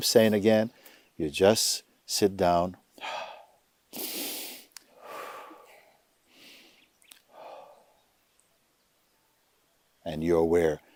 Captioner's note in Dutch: Mooji ademt langzaam in en uit